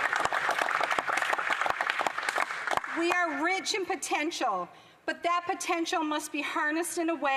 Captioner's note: applause